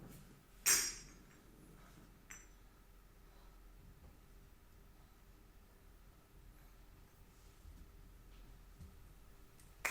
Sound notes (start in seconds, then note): 2.2 glass clinking